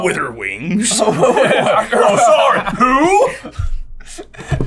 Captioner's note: laughter